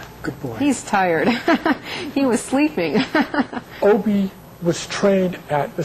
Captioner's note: laughs